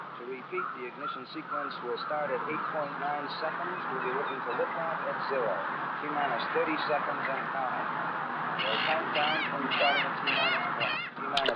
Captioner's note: Ambient environmental sounds mixed with voices of NASA engineers